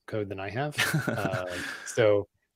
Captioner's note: laughs